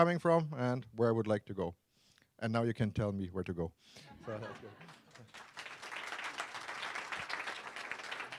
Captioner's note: laughter; applause